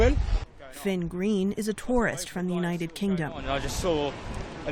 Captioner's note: voice-over